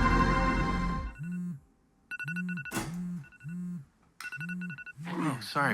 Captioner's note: phone chiming